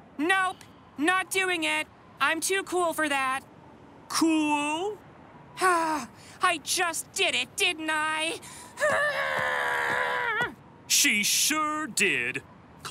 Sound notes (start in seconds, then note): 5.8 sighs; 8.8 groans